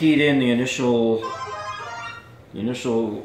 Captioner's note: cell phone rings